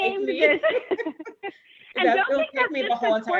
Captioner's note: laughing